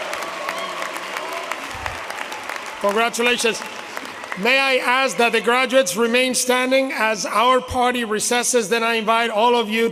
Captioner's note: applause